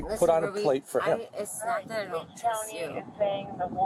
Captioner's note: radio chatter